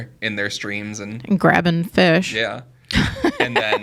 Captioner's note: laughs